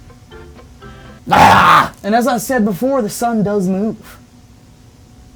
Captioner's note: screaming